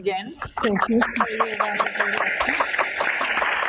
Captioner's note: applause